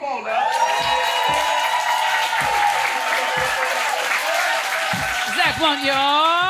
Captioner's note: audience cheers and applauds